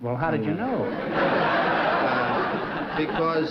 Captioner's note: laughter